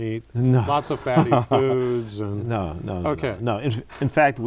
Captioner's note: laughs